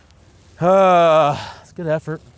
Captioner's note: loud Sigh